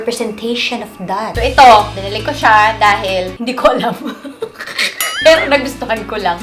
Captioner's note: laughs